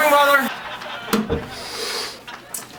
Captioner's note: door shuts; sniff